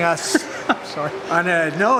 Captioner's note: laughing